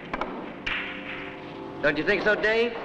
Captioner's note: balls clank